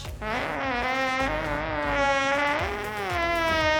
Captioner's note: farting